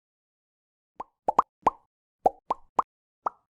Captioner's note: bubbles Popping